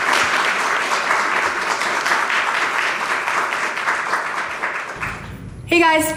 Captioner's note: audience cheering and applauding